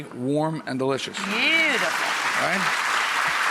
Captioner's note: audience applauds